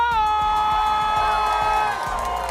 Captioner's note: cheering, applause